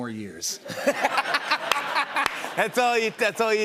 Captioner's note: laughter